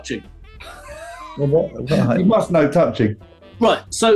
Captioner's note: sniggering